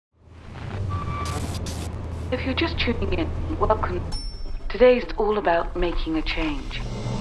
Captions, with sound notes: - If you're just checking in, welcome. (bell ringing) Today's all about making a change.